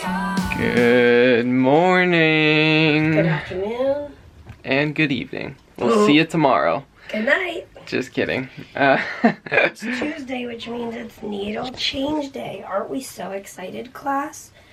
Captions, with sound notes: Good morning! Good afternoon. And good evening. We'll see you tomorrow. Good night. Just kidding. [chuckling] It's Tuesday which means it's needle change day. Aren't we so excited, class?